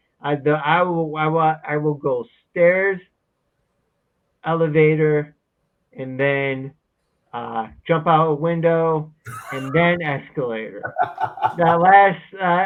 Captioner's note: laughs